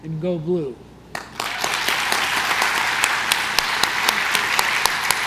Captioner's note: congregation claps